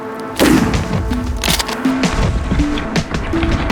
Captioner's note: gunshot